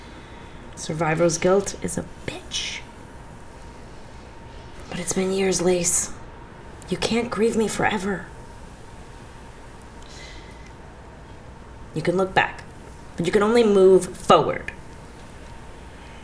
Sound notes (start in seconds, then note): none